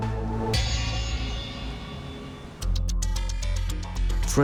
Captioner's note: harsh bell chiming; clock ticking